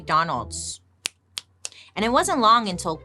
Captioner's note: clicking fingers